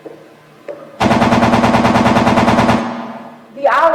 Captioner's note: gunfire